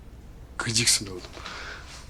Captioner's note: laughs